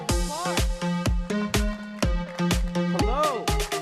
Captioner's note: applause